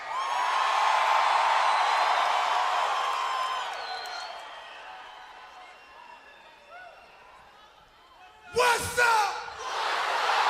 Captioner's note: crowd cheering